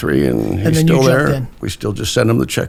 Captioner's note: laughs